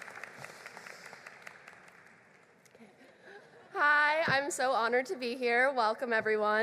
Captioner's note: applause